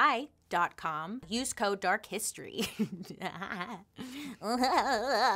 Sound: laughs

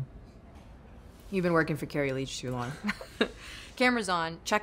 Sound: laughs

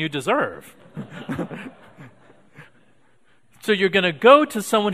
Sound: audience laughing

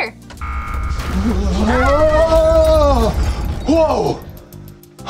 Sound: menacing tone

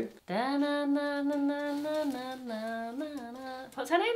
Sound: hums tune

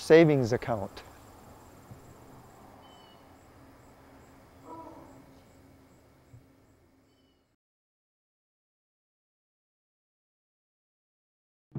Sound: silence

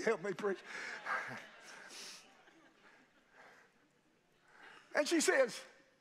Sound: congregation laughing

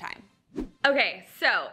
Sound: screen whooshing

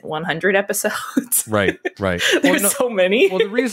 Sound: laughs

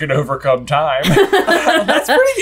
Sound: laughter

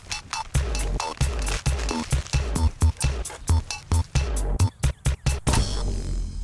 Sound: crunching noises

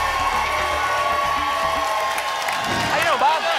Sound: applause and cheering cont

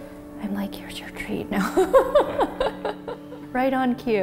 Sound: laughing

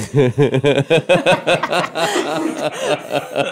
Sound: laughing

